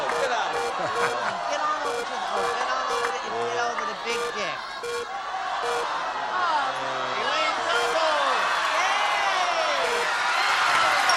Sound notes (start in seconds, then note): 4.8 beeping; 9.7 cheering and applause